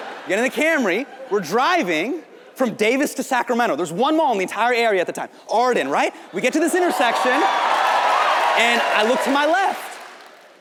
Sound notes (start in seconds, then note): 6.5 audience cheers